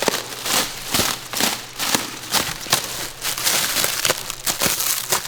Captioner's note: plastic wrap rattling